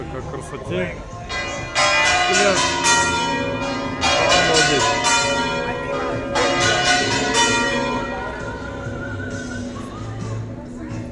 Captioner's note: bells